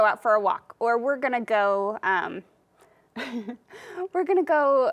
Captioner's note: chuckles